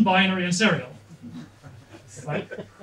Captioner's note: laughter